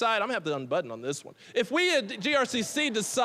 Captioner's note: audience laughing